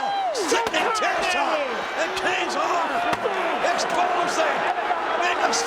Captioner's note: presenter speaking faintly off mic